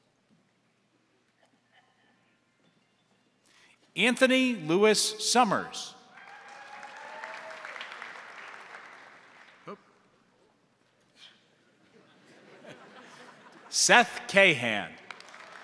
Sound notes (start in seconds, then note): 6.1 crowd cheering; 6.1 crowd applauding; 11.9 crowd laughing